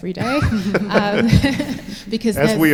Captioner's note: laughter